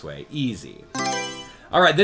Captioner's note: Mario Selection Sound